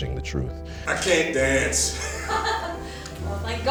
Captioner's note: laughing; laughs